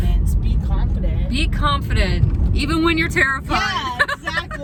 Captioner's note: laughs